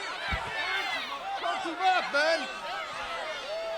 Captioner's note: crowd chatter